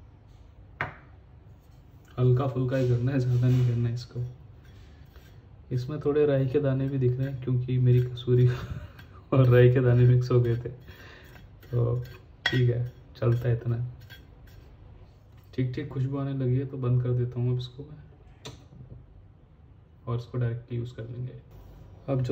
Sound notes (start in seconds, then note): 8.4 heheheh